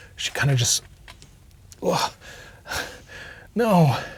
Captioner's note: groaning and breathing heavily